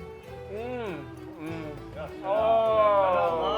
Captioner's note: upbeat music; moaning; man speaking in foreign language